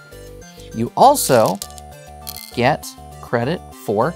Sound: stones rattling

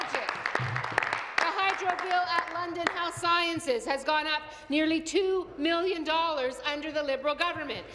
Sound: applause

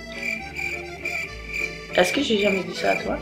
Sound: cricket sounds

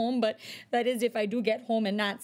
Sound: none

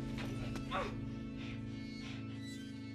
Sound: Joe moans

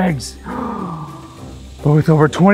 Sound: gasps

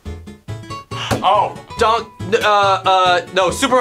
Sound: upbeat music; gasps

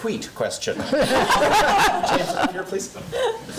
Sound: audience laughing

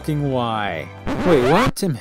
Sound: record scratch

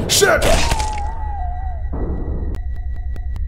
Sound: scp-173 neck snap

